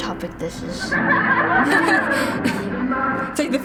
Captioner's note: laughs along; in video: joyful laughter